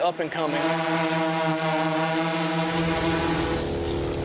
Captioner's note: drone humming